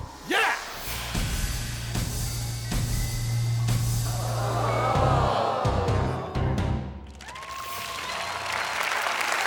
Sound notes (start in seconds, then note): 4.2 audience aws; 7.0 audience cheers and applauds